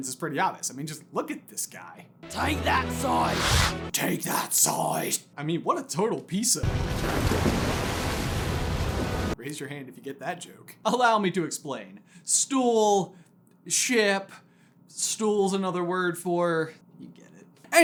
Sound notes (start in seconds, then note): 3.9 gruff and Batmanesque; 6.6 splash